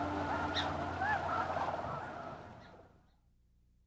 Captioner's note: birds squawking